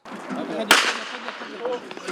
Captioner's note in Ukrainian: пістолетний постріл